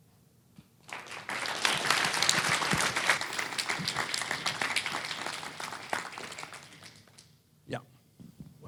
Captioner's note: applause